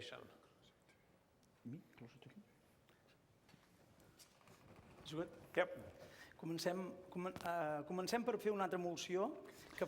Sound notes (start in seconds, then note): 5.1 non-english; 6.8 non-english speech